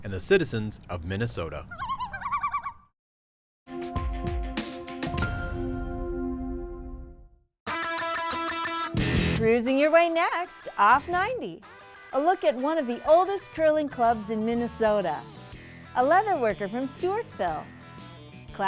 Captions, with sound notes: and the citizens of Minnesota. (loons calling) (gentle music) (upbeat music) - Cruising your way next "Off 90". A look at one of the oldest curling clubs in Minnesota, a leather worker from Stewartville,